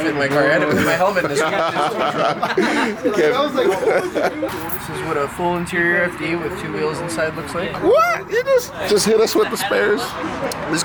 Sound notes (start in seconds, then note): 2.4 laughs